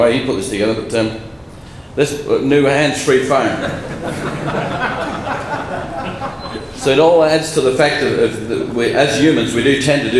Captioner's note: laughter